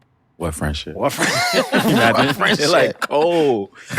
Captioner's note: laughter